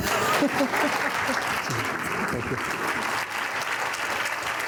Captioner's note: applause